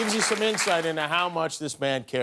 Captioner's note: applause